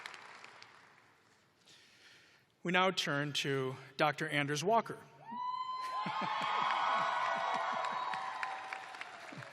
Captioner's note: cheers and applause